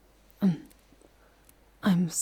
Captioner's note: clearing her throat